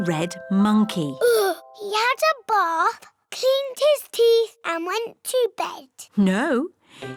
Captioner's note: sighs